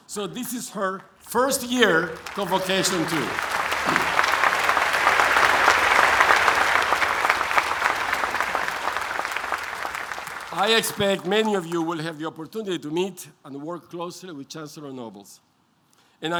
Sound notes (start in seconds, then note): 3.8 applause